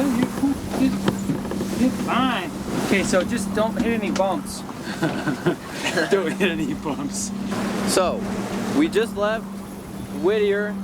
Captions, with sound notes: You did fine. Okay, so just don't hit any bumps. (laughing) Don't hit any bumps. So we just left Whittier.